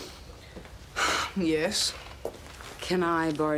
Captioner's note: sighs